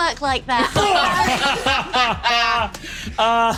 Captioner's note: laughs